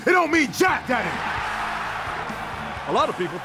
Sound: cheers, applause

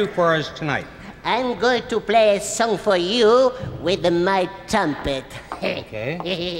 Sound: chuckles

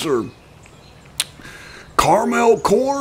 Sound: deep breath

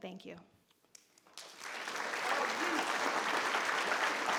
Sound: all clapping

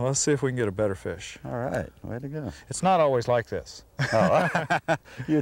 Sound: laughter

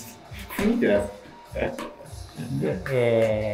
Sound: laughing

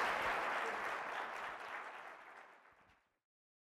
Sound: applause

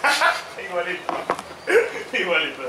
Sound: laughs

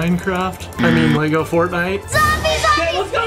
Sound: gasps; buzzer effect

